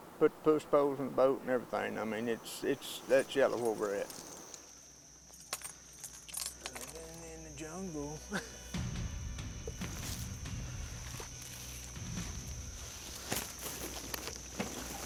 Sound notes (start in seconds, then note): 8.3 laughing